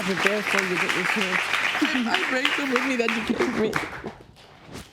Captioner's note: sobbing